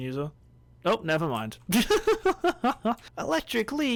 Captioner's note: laughs